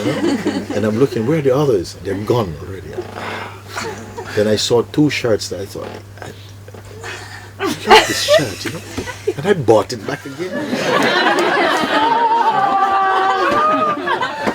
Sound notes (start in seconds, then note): 10.0 more laughter